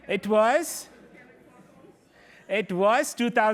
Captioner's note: chatter